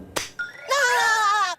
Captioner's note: laughs